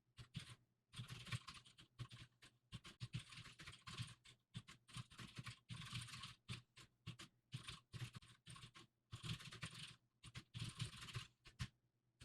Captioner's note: typing sounds